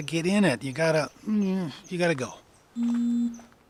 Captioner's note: groans